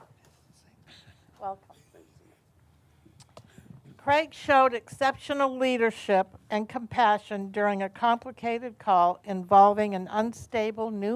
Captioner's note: laughter